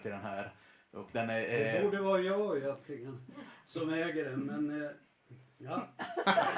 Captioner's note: laughter